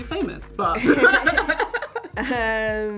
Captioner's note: laugh loudly